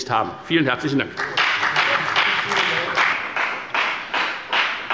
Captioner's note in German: Beifall bei der FDP